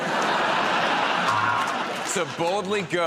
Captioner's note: laughter